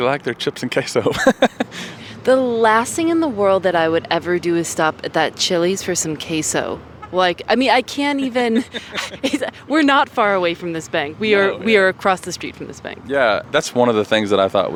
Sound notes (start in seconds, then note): 8.4 laughter